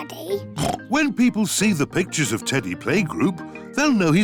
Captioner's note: oinks